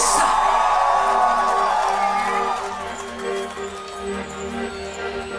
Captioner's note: audience cheers